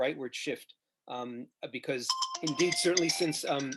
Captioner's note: phone ringing